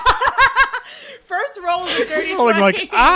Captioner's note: laughing